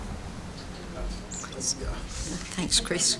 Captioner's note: chatting